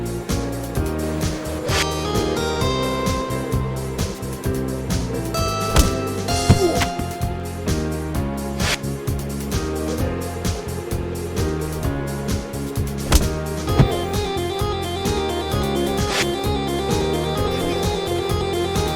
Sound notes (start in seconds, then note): 6.6 Night groaning